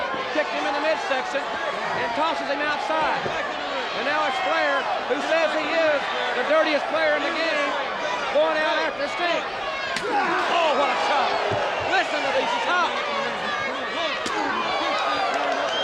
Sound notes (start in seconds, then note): 9.9 chop striking; 10.0 Sting exclaiming; 14.2 chop striking; 15.6 crowd cheering